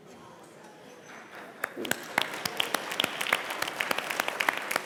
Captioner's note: applause